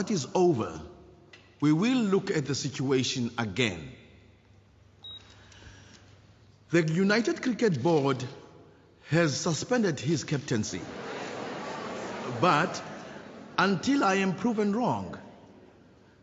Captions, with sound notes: Once that is over, we will look at the situation again. The United Cricket Board has suspended his captaincy. (crowd chatters) But, until I am proven wrong,